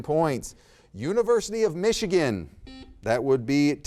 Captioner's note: buzzer beeps